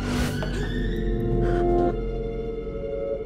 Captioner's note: gasps